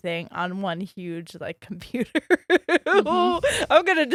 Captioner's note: giggles